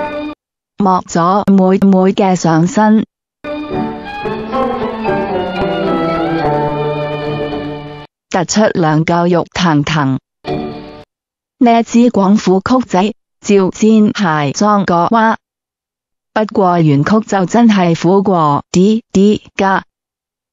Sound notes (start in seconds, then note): 12.9 Cantonese with strong Toi Shan accent